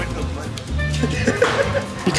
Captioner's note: laughs